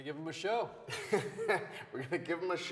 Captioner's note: Wes laughs